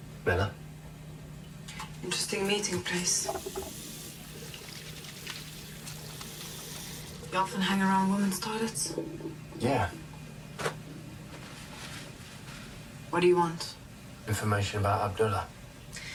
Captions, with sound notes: - Miller. - Interesting meeting place. (water running) You often hang around women's toilets? - Yeah. - What do you want? - Information about Abdullah.